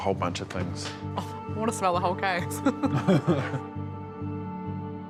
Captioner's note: chuckles